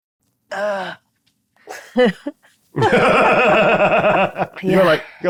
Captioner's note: Mayanna grunting; players laughing; grunts